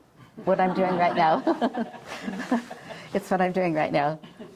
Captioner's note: chuckles